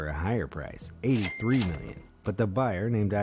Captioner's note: cash register ringing